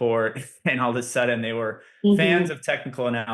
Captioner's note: laughs